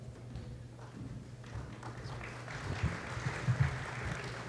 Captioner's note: applause